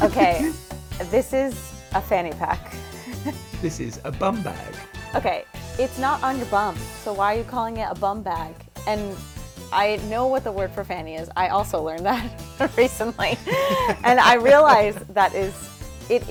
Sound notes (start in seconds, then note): 0.0 giggles; 13.1 laughs